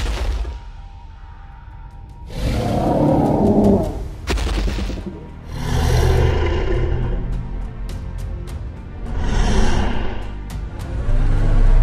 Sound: Apatosaurus stomps and growls

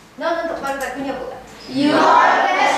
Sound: speaking foreign language

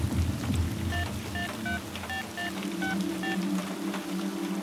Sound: mobile keypad dialing sound

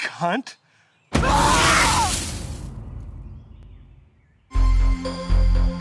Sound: screaming; leaves rustling; calm rhythmic music

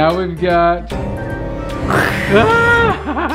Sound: scary music; growls; laughs

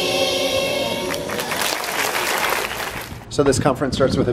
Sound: audience applauses

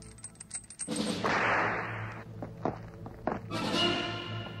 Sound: whip snaps; dramatic orchestral music

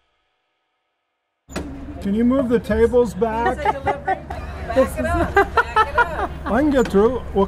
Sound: laughing

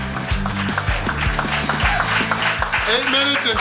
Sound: crowd applauding

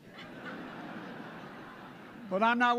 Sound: laughter

